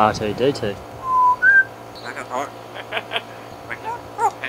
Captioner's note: bird chirps